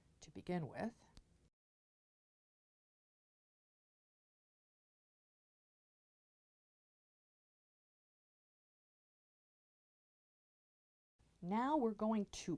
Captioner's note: no Sound Present